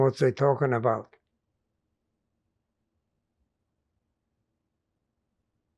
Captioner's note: pauses 8 seconds